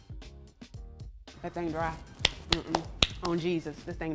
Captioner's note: hand claps